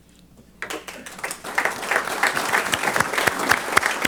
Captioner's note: applause